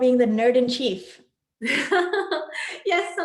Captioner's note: laughs